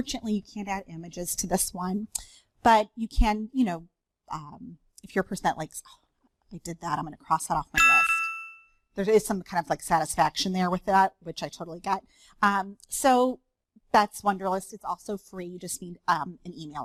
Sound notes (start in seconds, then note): 7.8 chime